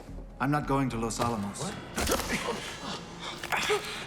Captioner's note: crunching squelch